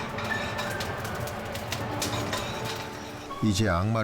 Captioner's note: sound of butter melting in the pan